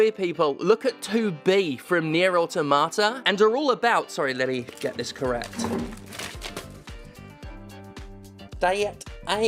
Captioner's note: rustles